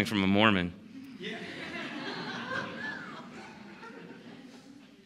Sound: laughter

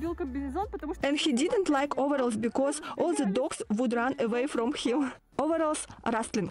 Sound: laught

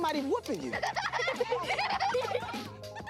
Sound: girls laugh

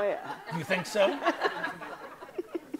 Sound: audience laughs

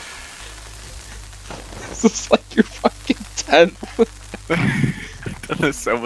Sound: laughs

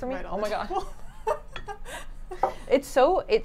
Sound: ladies offscreen laugh

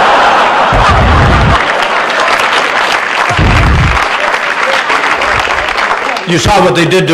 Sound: laughter and applause

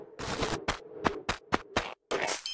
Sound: footsteps

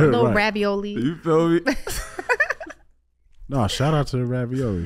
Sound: all laughing

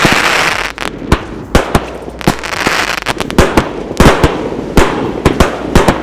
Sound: fireworks exploding; fireworks exploding and crackling

